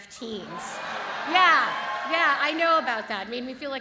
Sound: audience cheers

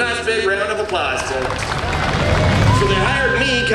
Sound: crowd cheering

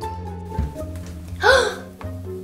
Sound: gasp

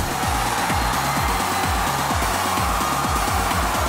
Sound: cheering

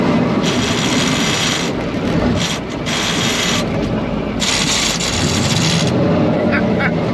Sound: gears grinding

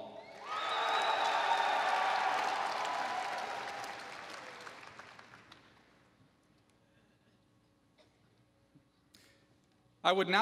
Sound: applause

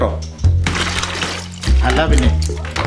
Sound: pours water

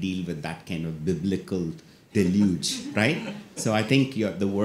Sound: audience laughs

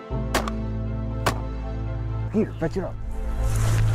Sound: gunshots

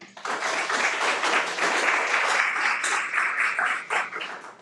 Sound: everyone applauds

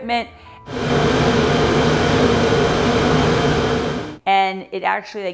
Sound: machine whirring

